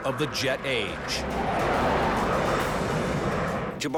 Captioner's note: engines blaring